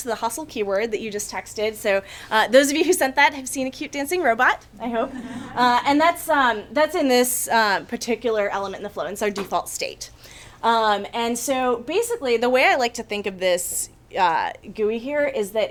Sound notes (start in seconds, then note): 4.9 audience chuckles